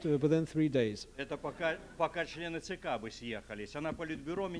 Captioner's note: non-english speech